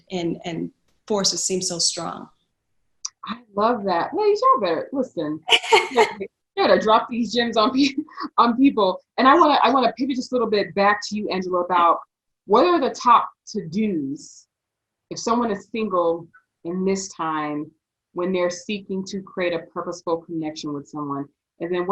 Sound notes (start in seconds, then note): 5.4 laughs